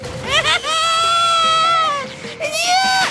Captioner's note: Kazuto screaming